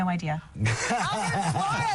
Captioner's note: laughing